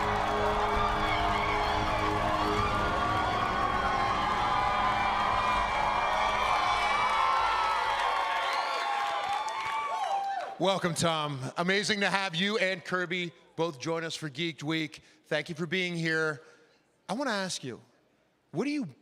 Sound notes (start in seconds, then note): 2.2 applause; 2.2 cheering